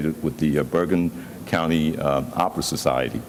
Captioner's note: none